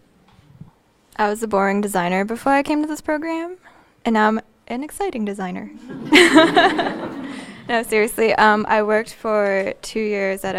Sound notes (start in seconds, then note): 5.7 audience laughing; 5.7 laughing